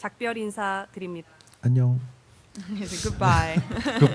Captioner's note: speaking korean